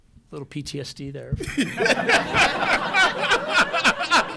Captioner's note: laughter